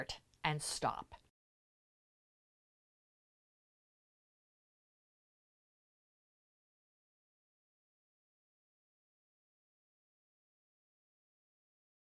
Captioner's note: no Sound Present